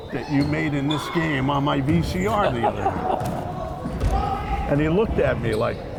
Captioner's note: laughing